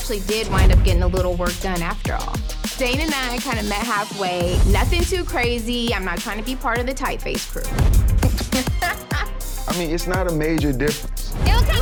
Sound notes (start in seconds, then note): 8.1 dramatic music; 8.3 laughs